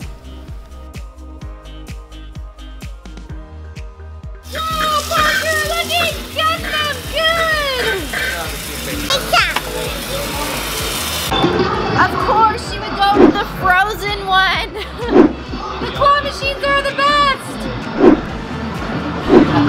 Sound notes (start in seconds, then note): 0.2 upbeat music; 4.6 screaming